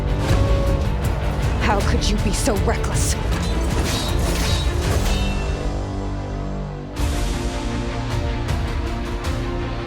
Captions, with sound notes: - How could you be so reckless? (swords clashing)